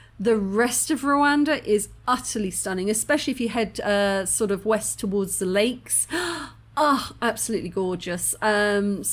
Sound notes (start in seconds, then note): 6.0 gasp